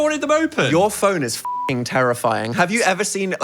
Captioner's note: beep